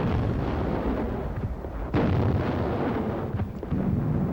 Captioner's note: bombs exploding